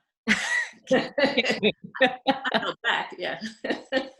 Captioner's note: women laughing